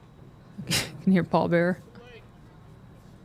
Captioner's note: chuckles